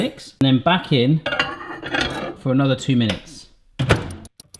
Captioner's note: door slamming